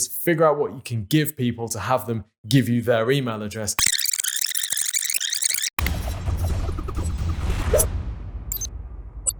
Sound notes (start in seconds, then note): 3.8 tape rewinding; 5.8 dramatic music